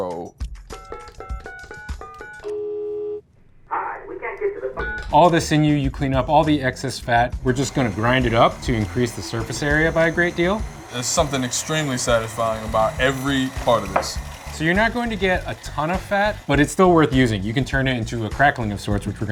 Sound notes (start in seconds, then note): 0.2 phone keys beeping; 1.8 phone ringing